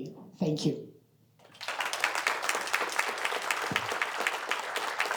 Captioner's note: applause